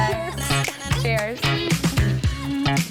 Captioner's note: glasses clinking; laughs; upbeat music